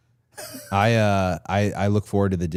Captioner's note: Chad laughs